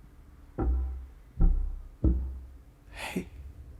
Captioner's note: tapping